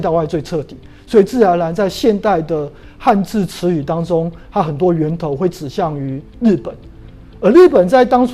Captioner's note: chinese words